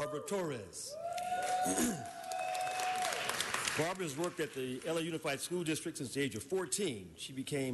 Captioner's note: appaluse